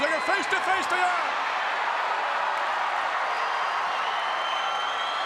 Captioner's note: audience cheers